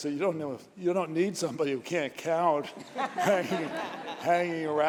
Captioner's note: laughter